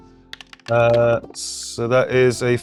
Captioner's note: die rattling